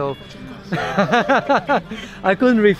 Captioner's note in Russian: смеётся